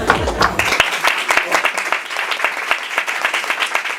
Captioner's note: laughs; applause